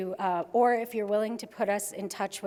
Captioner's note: none